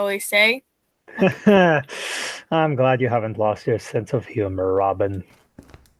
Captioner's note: laughs